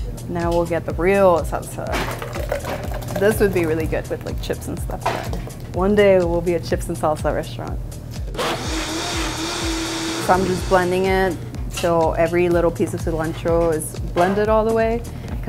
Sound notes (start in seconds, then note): 0.0 upbeat music; 8.3 machine whirling